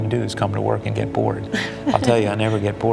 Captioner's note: laughs